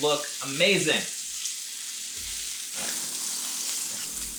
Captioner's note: grill sizzling